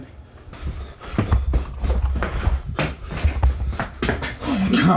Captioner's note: Dave breathing heavily